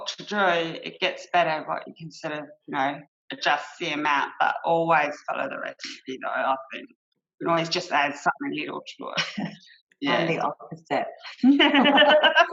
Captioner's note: laughter